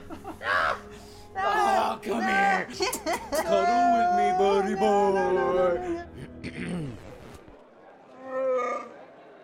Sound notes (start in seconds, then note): 0.0 laugh; 6.2 cough; 8.2 wookie sounds